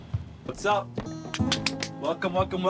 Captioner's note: claps